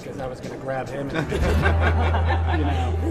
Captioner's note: laughing